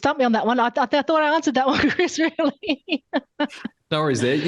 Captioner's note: laughs